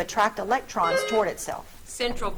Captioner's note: buzzer trills